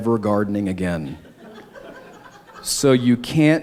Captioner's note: laughter